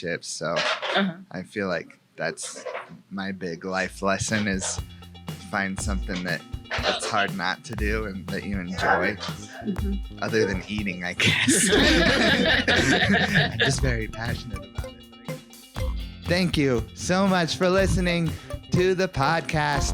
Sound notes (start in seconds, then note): 11.2 all laugh; 15.8 upbeat music